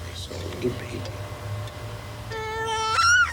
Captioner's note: child gurgles